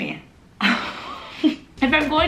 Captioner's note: laughs